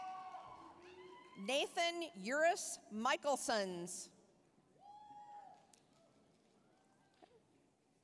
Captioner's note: applause, cheering; applause, cheering